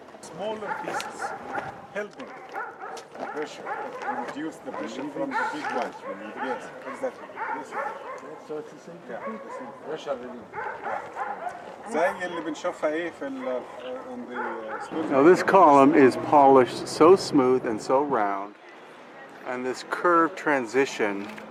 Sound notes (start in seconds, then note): 7.7 tourists chattering; 9.0 dog barking